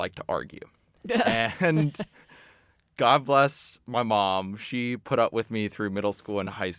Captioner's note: chuckles